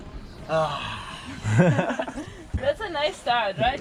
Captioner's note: laughing; chuckling